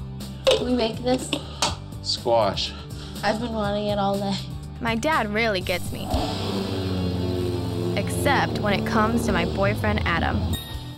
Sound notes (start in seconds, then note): 5.7 engine roaring